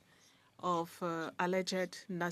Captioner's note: speaking French